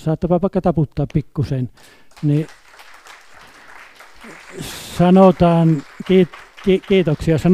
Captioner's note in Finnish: Aplodeja